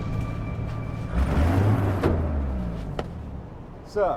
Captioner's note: car door opening